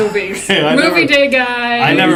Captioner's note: laugh